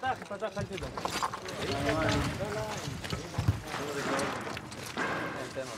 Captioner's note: Hebrew spoken audio